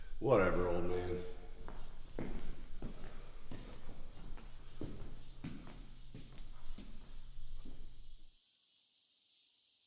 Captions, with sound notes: - Whatever old man. (footsteps receding) (crickets chirping)